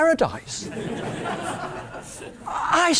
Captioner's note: laugh